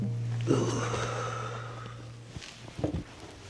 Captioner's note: groans